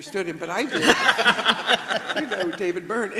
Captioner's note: everybody laughs